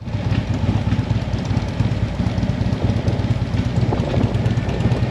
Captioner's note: motorcycle engine sound